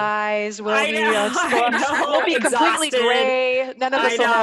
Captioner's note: murmurs